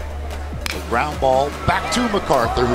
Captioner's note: ball hitting bat